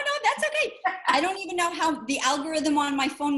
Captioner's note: laughs